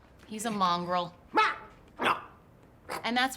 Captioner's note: grunts